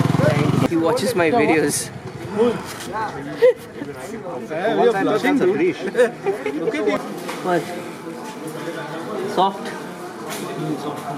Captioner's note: more laughter